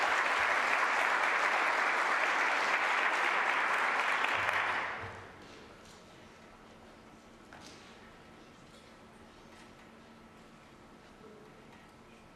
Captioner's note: applause